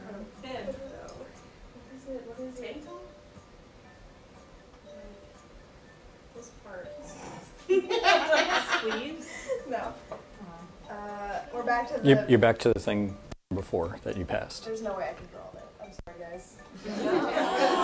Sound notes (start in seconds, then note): 7.6 laughter; 16.9 buzzer, then audience roars with laughter